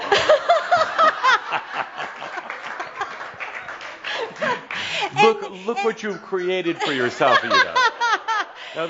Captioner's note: laughter and some applause